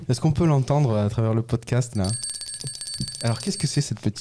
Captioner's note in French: Son de la cloche